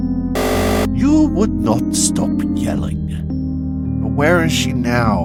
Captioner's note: buzzer